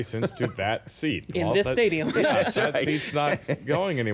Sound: laughing

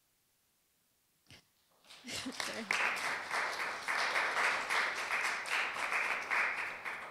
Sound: applause

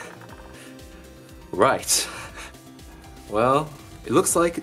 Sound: chuckles

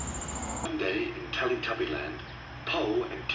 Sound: 'Teletubbies' play on TV

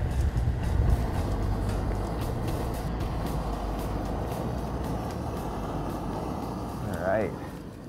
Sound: wind gusting

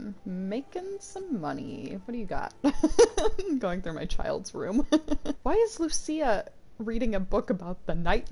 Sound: laughs

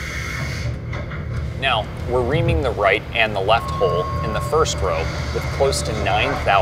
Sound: machining noises

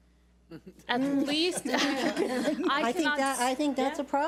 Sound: laughs

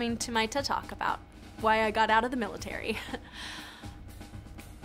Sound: sadly laughs

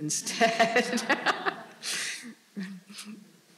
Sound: all laughing

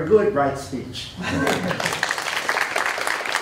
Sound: applause

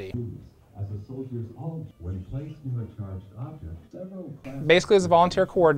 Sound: recording playing in background

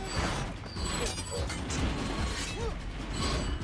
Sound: both grunting

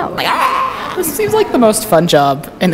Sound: groaning scream

